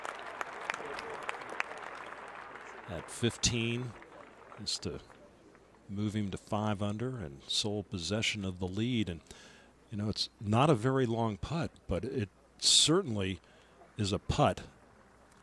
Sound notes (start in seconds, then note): 5.3 applause